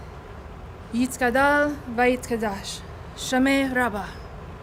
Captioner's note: speaking Hebrew